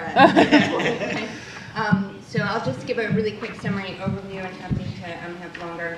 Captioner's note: laughter